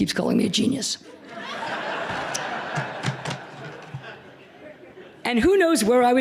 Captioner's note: laughter